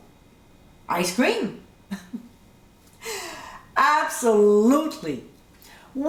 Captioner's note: giggling